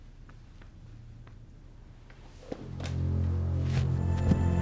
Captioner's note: patting soil; spooky music